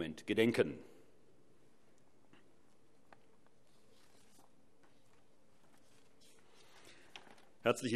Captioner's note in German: Schweigeminute